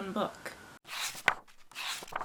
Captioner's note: pages turning